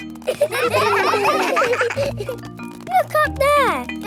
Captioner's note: children laughing